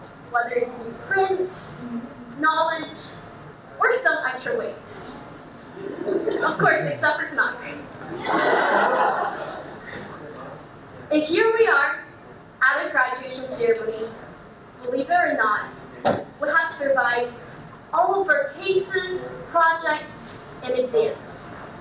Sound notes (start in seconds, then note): 5.7 audience laughs